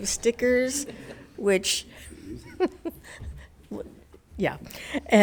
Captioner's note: laughs